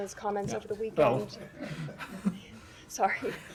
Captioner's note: laughter